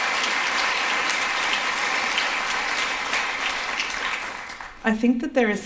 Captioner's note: applause